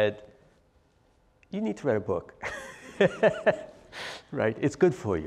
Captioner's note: laugh